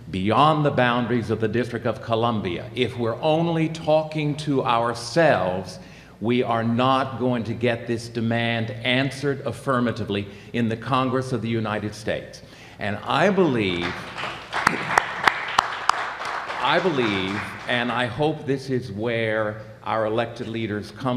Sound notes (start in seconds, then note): 13.6 applause